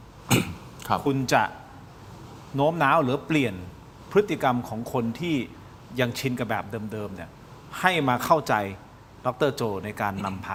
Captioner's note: clears throat